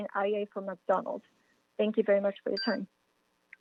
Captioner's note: chime